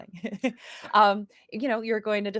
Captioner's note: laughs